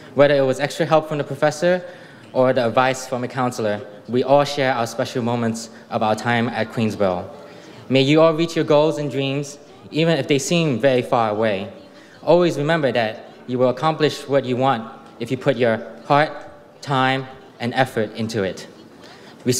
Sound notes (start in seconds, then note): none